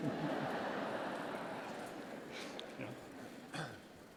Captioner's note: laughter